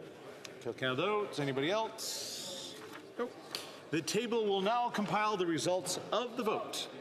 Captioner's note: calling of recorded vote